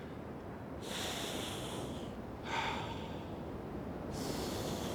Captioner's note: <i> breathing deeply</i>